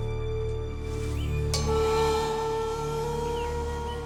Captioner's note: gong